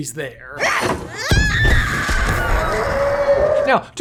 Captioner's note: Meilin grunting and screaming